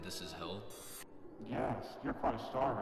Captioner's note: whooshing